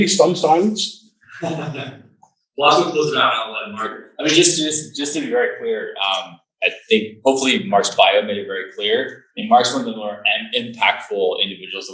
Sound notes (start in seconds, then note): 1.3 laughs